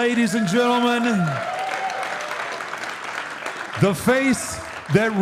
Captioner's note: audience applauding